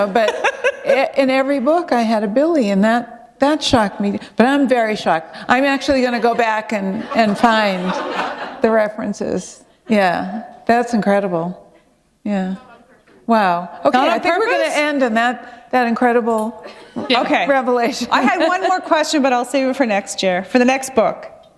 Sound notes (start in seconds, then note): 9.4 laughter